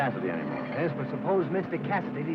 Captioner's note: none